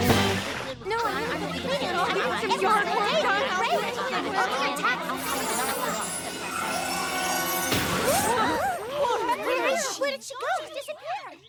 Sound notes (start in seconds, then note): 2.7 ominous music plays; 7.6 all gasping